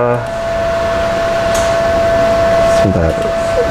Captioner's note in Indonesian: suara mesin